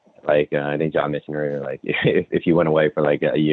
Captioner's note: laughs